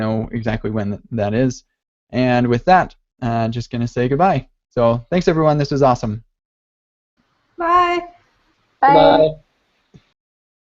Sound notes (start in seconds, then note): 7.9 voiceover